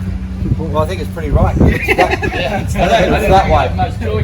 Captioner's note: laughter